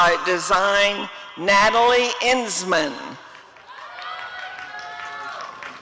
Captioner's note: applause and cheering